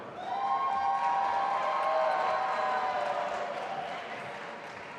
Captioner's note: audience applauding